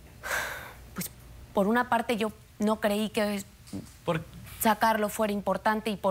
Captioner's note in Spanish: exhala